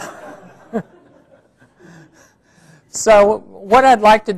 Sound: laughing

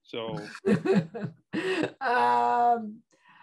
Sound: laughs

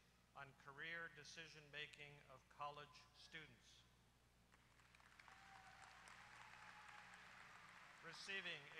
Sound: applause

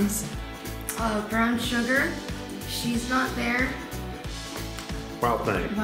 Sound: snap

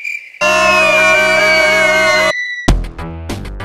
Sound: screaming continues

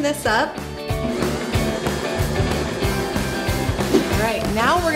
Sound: mixer whirring

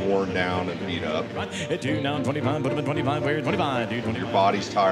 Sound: auctioneer calling

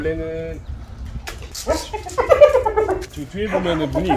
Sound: hyena crying

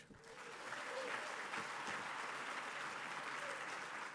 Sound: applause

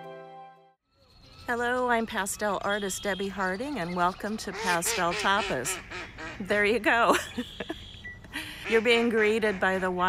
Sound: duck quacking loudly

